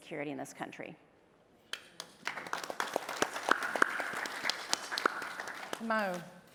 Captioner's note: applause